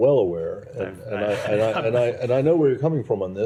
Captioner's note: laughter